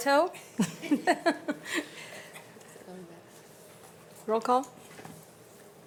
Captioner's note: presenter laughing